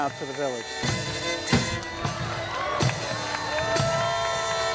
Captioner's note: applause